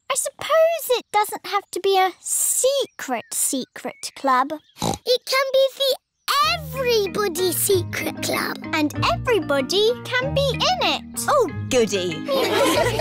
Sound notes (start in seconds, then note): 4.7 snorts